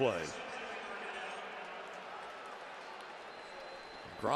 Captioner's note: pa announcement